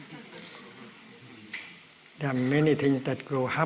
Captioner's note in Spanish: Risas